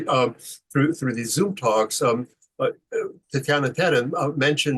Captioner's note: speaks foreign language